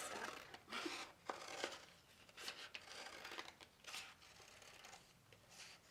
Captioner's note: scissors snipping